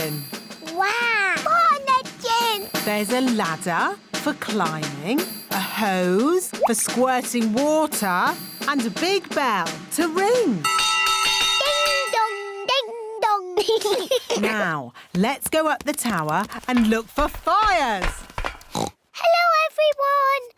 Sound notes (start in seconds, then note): 10.6 bell rings; 13.6 laughter; 18.6 oinks